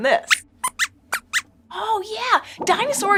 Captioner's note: squeaks squeaks